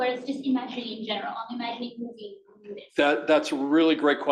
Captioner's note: murmurs